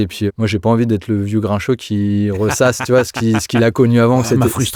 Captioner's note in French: Rires